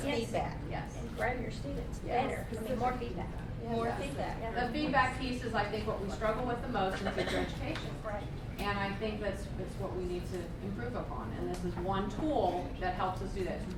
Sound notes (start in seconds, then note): 0.3 voiceover; 8.0 voiceover